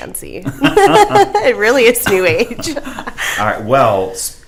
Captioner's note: laughs; laughs